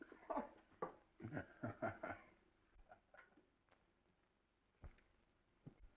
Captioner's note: dark haired director laughs